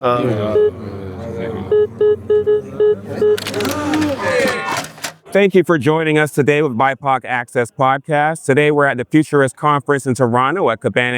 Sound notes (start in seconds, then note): 3.3 beeping